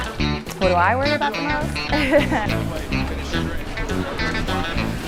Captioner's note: laughs